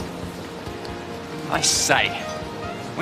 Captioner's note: English accent